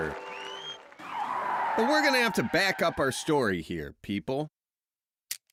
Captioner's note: crowd cheers